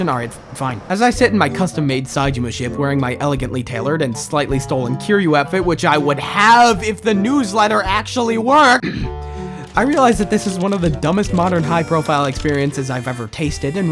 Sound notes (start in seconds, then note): 8.8 clears throat